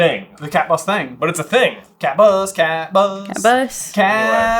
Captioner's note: sing-song